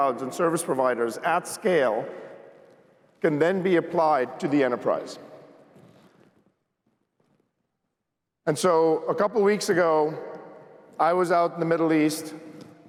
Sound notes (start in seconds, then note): none